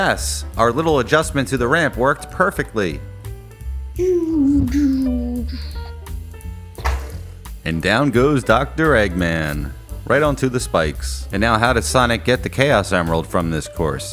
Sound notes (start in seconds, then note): 6.5 crash